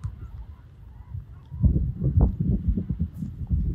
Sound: wind

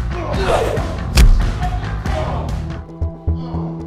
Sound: thud; mystical music

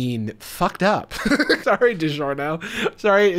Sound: laughs

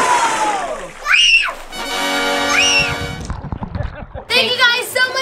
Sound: splash; screaming

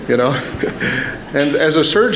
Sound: laughter

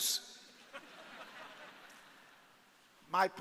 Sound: audience laughing

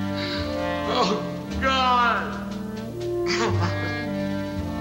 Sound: sobs

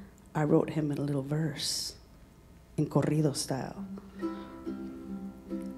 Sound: speaking in Spanish

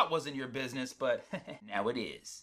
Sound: chuckles

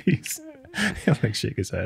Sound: all laugh

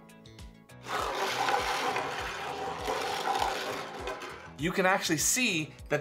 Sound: upbeat music; steel marbles rolling

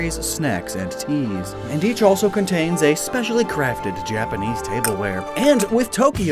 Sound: porclain clanking noises

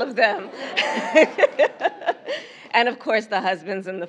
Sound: laughter

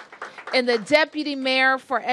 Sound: applause

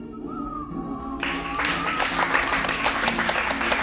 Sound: applause

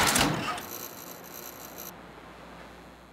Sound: childish cooing

